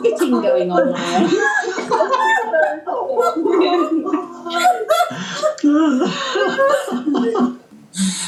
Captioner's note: laughter continues